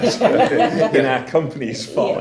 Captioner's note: laughing